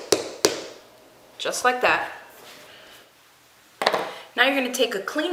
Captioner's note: tapping